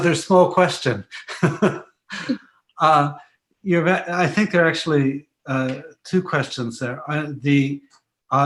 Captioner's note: laughs